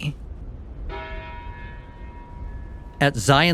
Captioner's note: church bells ringing